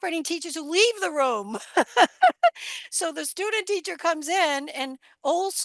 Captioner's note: laughs